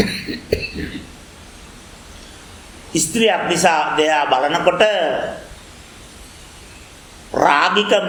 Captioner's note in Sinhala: උගුර කෑරීම